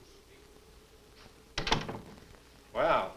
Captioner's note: door closes